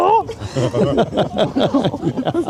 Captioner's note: laugh